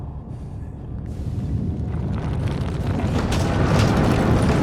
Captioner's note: rumbling